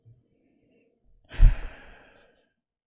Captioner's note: exhales